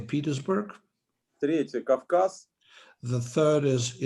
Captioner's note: speaking Russian language